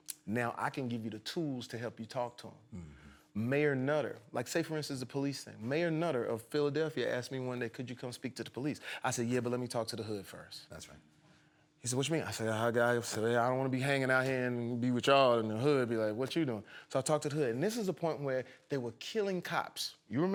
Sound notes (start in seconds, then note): none